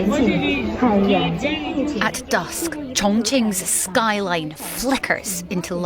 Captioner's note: crowd noise